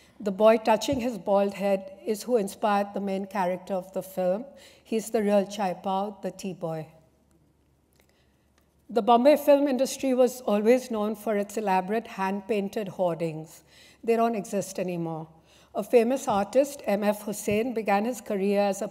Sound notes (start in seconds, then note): 6.2 non-english